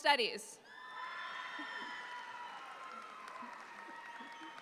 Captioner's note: audience applauds